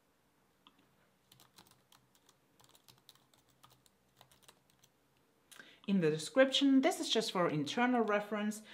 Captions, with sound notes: [Typing] In the "Description", this is just for internal reference,